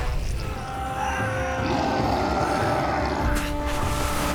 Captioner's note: Appa grunting; grunting